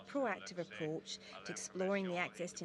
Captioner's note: speaking French